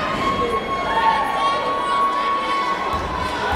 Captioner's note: yelling